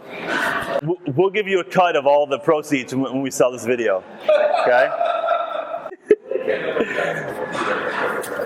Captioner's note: laughing